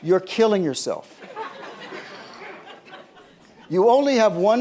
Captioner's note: laughter